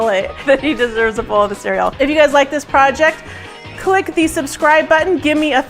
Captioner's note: laughs